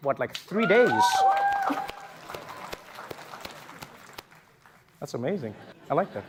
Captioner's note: applause